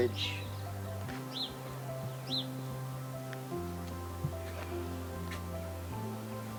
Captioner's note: birds chirping; bright piano music